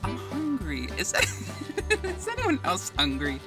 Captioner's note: giggles